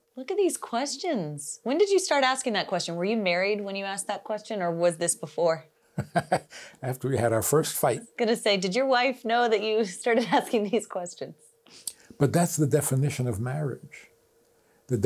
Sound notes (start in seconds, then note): 6.0 laughs